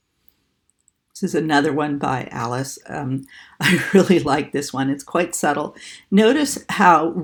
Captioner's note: laughing